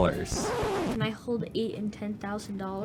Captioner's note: record scratch